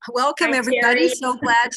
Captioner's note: laughing